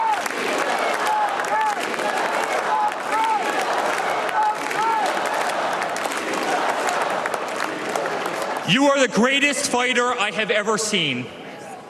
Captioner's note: cheers and applause